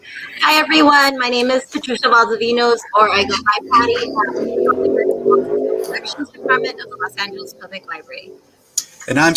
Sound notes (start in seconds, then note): 2.9 vehicle roaring